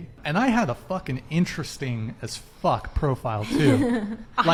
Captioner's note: laughs